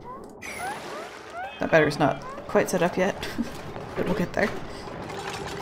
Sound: laughs

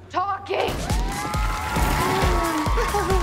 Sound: cheering; giggling

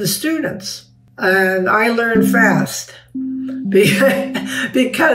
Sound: chuckling

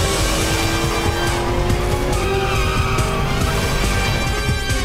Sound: tires squeal

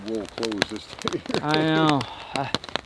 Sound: laughs

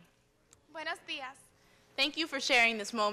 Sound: speaking in spanish

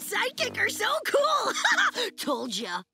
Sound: laughing

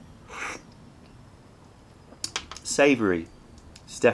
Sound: sips tea

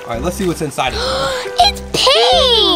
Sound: gasps

